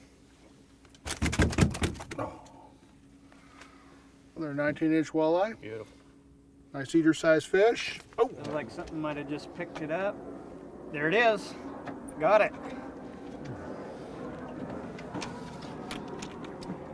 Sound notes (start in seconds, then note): 0.9 fish thrashing